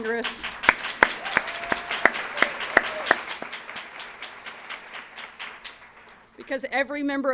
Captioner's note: applause